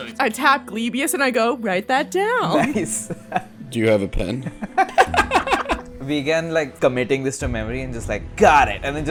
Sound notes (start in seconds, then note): 2.5 laughter